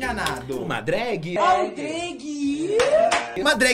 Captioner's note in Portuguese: palmas